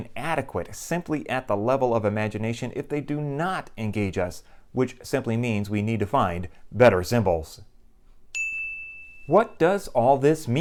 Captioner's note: chime